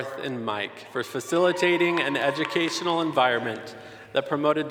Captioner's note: applause